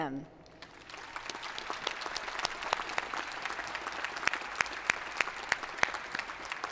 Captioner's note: applause